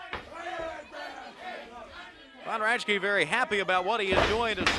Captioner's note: crowd chatter